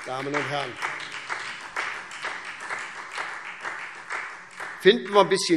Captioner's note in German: Beifall SPD